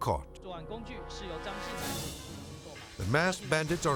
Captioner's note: reporter speaking in Mandarin